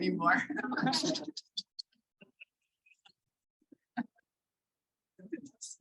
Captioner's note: laughter